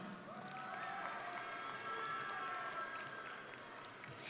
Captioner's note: audience cheering